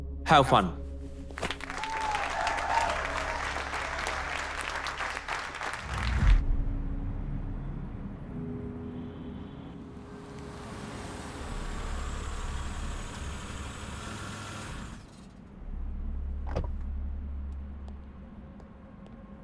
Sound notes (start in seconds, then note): 1.3 applause, cheering; 16.3 door opens